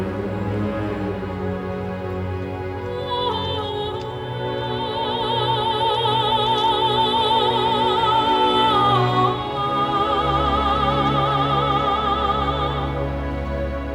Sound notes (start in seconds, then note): none